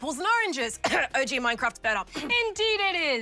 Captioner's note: coughs